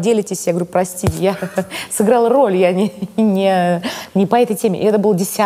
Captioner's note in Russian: смеётся